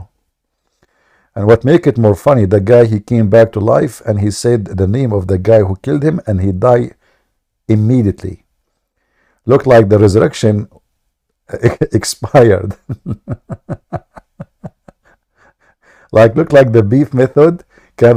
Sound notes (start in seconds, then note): 12.6 Ketawa